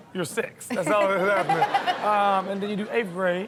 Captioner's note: Chanel and audience laugh